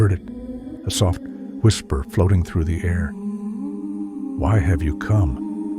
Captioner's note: whisper